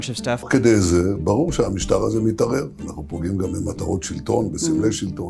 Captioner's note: Netanyahu speaks foreign language